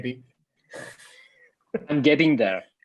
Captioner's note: chuckles